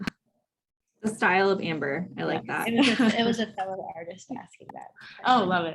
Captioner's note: laughs